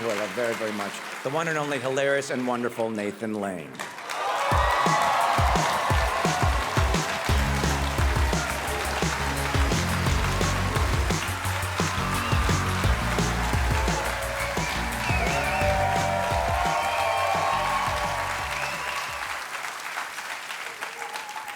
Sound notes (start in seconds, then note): 4.5 audience cheering; 4.5 cheerful music; 17.5 cheering continues